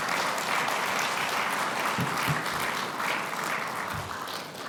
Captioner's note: audience clapping